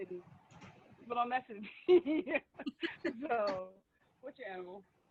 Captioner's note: laughing